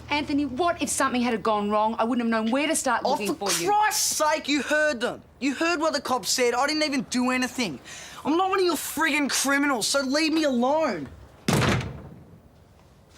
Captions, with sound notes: If something had happened, I wouldn't know where to find you. For Christ's sake, you heard what the cop said! I didn't even do anything. I'm not one of your frigging criminals. Leave me alone! (Slams door)